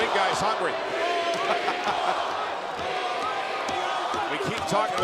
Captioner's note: audience cheering